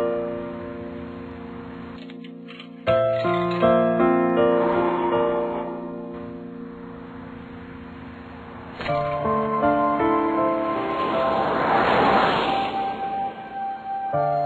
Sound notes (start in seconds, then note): 0.1 car rolling; 2.0 coins inserted in pay phone; 3.9 wind blowing; 6.1 car rolling; 10.0 car rolling across